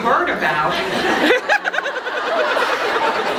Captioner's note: laughs